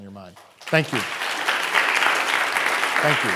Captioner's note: audience applauding